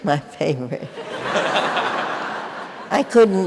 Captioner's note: audience laughing